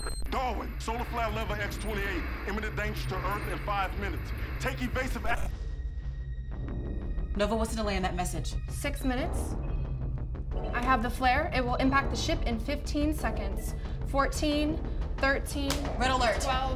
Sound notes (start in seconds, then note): 5.1 static buzzing; 5.7 intense music; 10.5 computers beeping